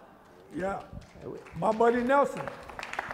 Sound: applause

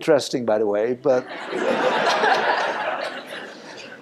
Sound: laughter

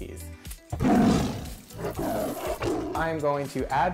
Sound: upbeat music; tiger roars

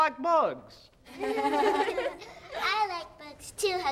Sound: laughing

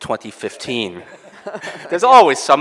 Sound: laughing

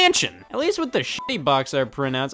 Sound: beep

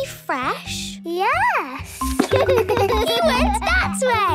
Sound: giggles

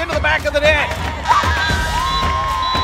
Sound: people cheering; whistle blowing

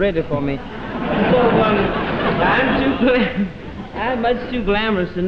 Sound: audience laughing

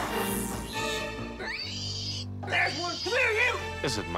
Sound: squealing

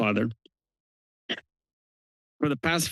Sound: pause

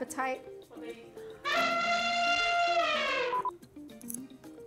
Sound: elephant trumpets; upbeat music

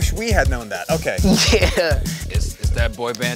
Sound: laugh

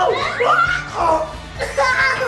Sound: screams; laughing

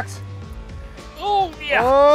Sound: grunts

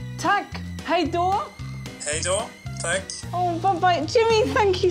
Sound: speaking Swedish

